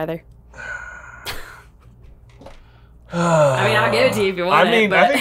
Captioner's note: chuckling; sighing